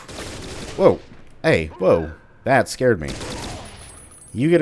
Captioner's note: M16 bursts